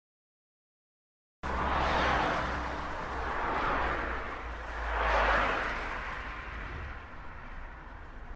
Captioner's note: sound of cars driving on the road at high speed